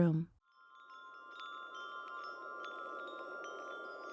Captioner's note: gentle wind chimes